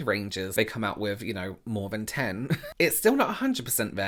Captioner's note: chuckling